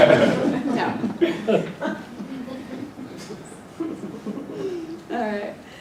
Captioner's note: laugh